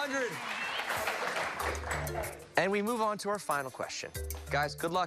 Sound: cheers and applause

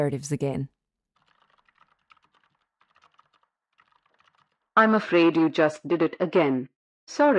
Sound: background SFX: Keyboard typing

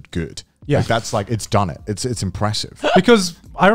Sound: laughing

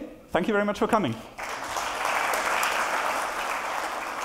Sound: applause

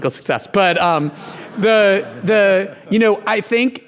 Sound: audience laughing

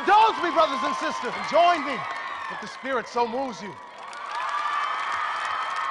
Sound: cheering and applause

